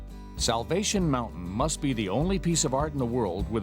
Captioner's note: voiceover